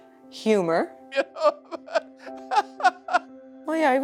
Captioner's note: laughing